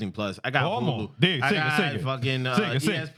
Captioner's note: speaking In Foreign Language